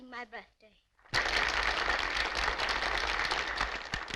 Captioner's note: applauding